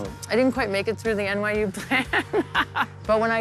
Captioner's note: laughs